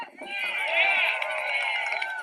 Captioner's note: applause